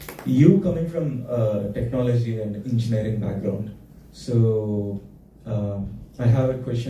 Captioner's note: applause